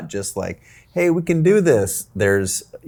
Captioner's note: Tom murmurs